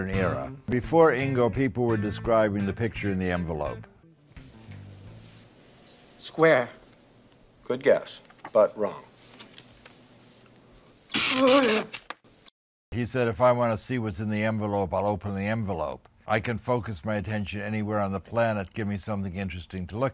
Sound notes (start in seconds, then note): 11.1 electricity buzzing; 11.2 groaning